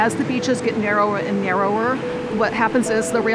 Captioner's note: bell ringing